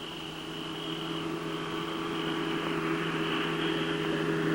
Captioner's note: engine rumbles